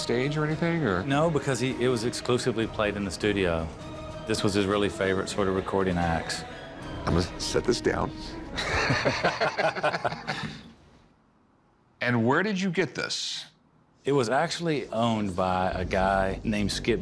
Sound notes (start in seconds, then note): 8.5 laughter